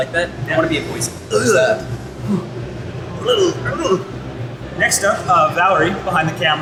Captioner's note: sound effects